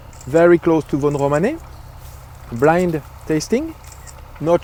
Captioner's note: camera clicking agressively